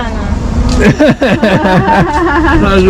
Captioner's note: laugh